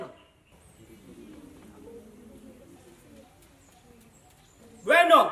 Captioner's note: people murmuring